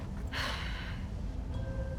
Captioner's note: sigh